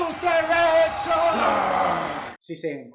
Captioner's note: wrestler growls as the crowd goes wild